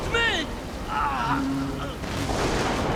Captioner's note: groaning